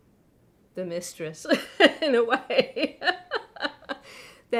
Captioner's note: laughing